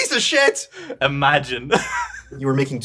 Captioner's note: chuckles